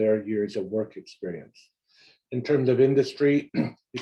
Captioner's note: cough